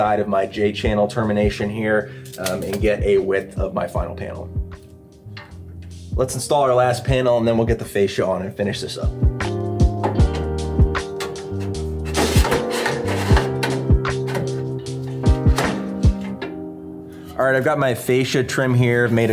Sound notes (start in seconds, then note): 9.4 relaxed music; 10.9 metal clanking